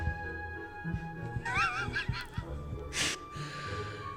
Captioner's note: laughs